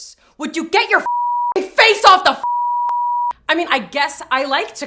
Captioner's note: beep